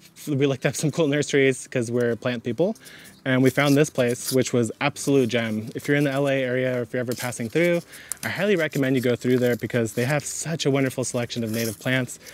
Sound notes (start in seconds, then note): 2.8 bag tears; 8.0 bag tears; 11.3 bag tears